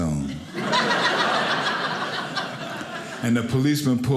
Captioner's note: audience laughing